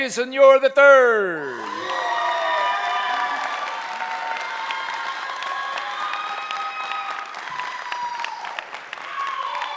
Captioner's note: applause